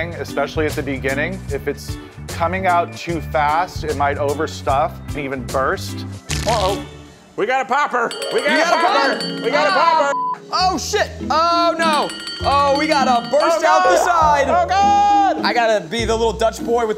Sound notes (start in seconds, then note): 10.0 yelling